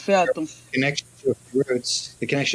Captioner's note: answers in French